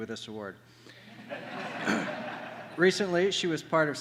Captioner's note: laughter